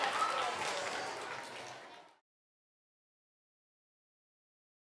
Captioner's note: applause